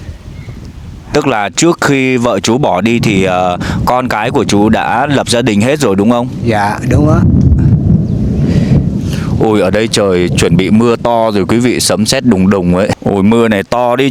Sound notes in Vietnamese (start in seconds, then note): none